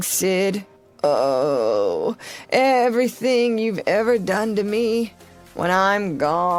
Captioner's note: groan